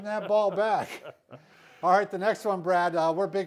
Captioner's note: laughing